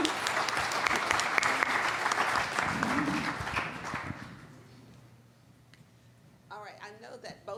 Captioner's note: applauding